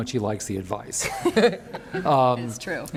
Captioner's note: laughs